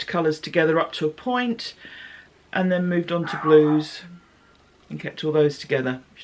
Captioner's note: barking